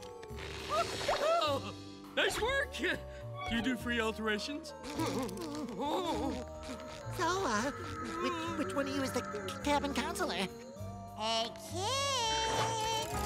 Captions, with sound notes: [yelps] Nice work. Do you do free alterations? [panicked whimpering] So, uh, which... which one of you is the c-cabin counselor? Hey, Kid.